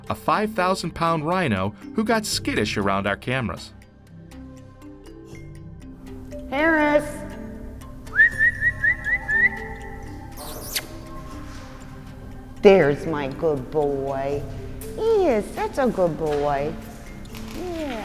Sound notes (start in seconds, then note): 8.0 whistling